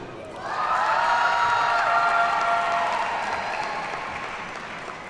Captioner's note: audience cheers and applauds